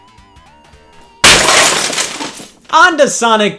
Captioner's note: glass shatters